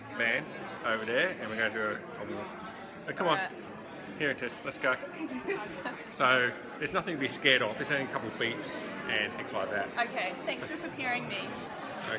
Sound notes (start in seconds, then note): 5.1 laughing